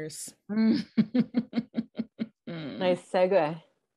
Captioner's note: chuckling